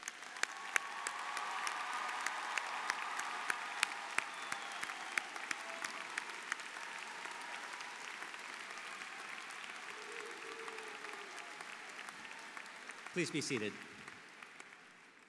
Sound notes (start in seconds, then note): 3.3 applause